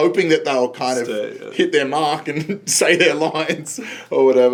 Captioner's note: laughs